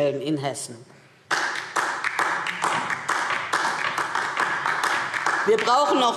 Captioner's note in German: Beifall DIE LINKE